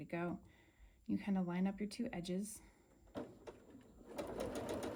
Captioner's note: sewing